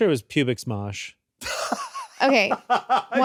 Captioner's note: laughs